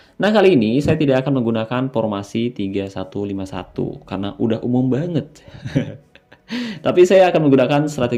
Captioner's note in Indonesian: tertawa